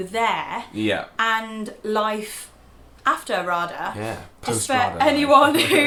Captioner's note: laughing